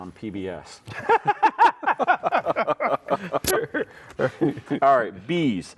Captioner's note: laughing